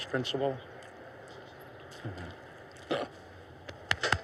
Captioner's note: laughs